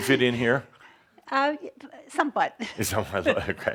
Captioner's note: they chuckle